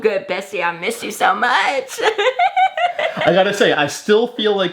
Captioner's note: laughs